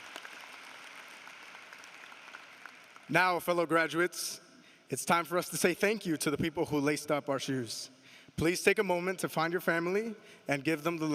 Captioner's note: applause